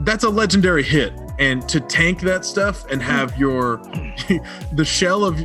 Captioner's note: laughs